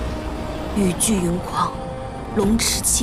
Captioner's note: the storm and rain rage